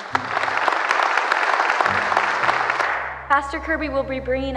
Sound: crowd applauds

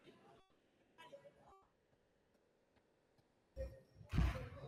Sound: audio warps

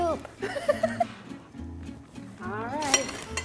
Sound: laughter

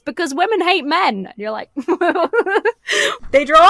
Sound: laughs

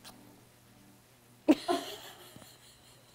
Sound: laughs

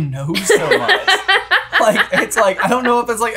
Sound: laughing

